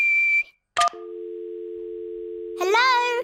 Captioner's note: whistles; dial tone beeping